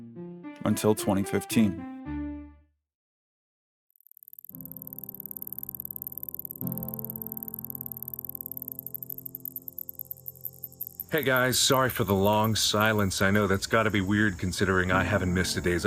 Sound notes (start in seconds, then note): 4.2 noise of rising ticker; 9.5 noise of ambient cricket and nature fades in